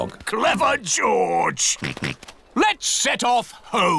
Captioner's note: snorts